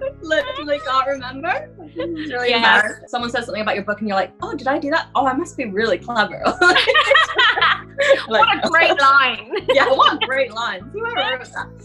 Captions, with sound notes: I literally can't remember. It's really bad. Someone says something about your book and you're like, "Oh, did I do that? Oh, I must be really clever." (laughter) - "What a great line." - Yeah, "What a great line, whoever wrote that."